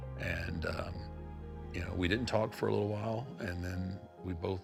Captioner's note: none